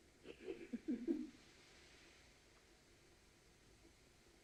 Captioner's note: Macbeth sobs